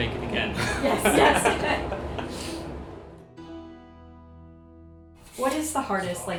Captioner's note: both laughing